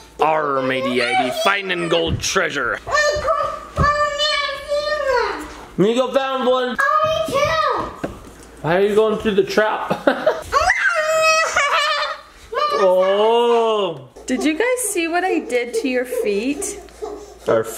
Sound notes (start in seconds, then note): 7.8 exclaims; 9.8 laughs excitedly